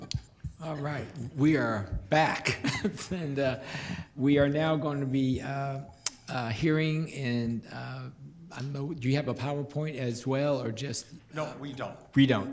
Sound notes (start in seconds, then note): 2.5 chuckles